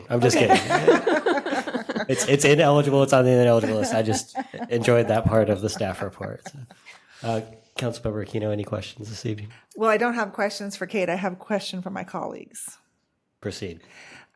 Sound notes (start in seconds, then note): 3.2 laughter